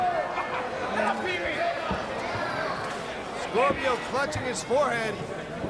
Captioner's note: crowd chatter